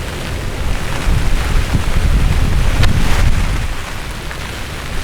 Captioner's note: wind & rain